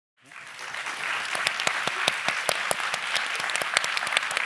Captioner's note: applauding